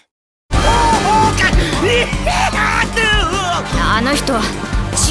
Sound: inaudible scream

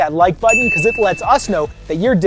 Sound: bell rings

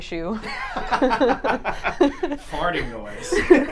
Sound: both laughing

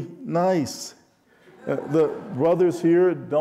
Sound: audience laughing

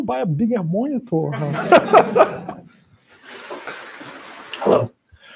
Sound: laughter

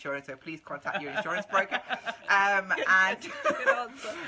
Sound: laughing

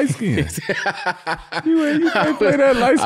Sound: Daniel laughing

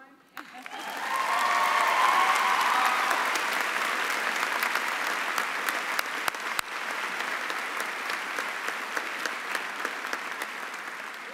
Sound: applause and cheering

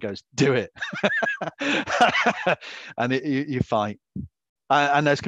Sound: laughs

